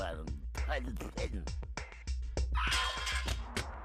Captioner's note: muttering